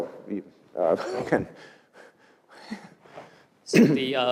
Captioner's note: cough